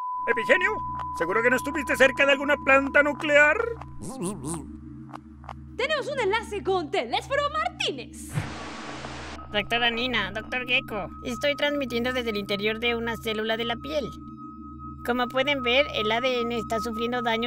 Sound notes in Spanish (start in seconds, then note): 8.3 estática